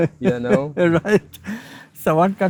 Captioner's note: laughing